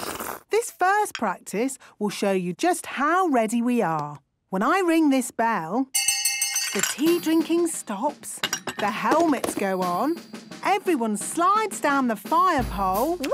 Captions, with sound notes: - This first practice will show you just how ready we are! When I ring this bell... - (hand bell ringing) - ...the tea drinking stops. - (tea cups clinking) - The helmets go on. Everyone slides down the fire pole...